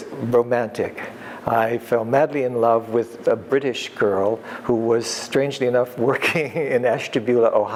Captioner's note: laughs